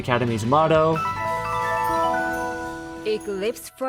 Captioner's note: Arthur Flashback sounds